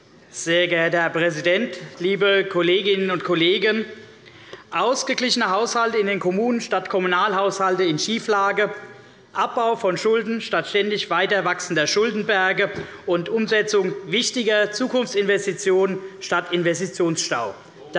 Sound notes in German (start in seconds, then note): none